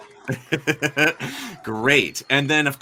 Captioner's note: laughs